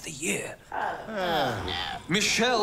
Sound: noises of disappointment

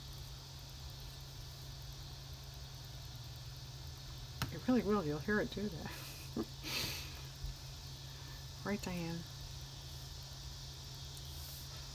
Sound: laughs

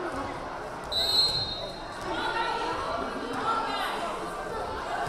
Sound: whistle blaring

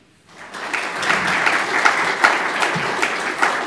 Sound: applause

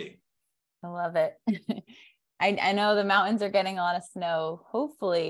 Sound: chuckles

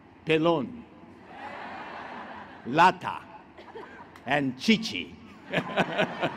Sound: laughter

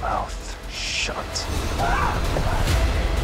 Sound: terrified scream

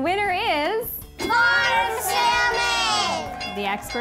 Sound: bell ringing

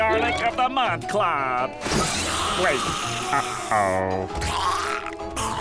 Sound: hissing

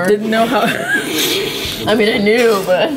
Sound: laughs

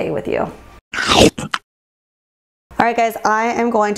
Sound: loud crunch

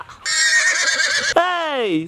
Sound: horse whinnies

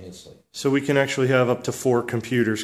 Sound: voiceover

